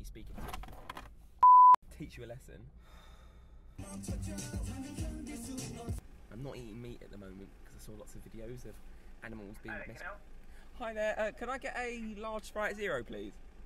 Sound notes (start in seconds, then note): 2.8 exhales; 3.8 upbeat music